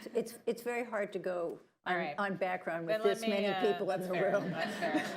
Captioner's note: laughter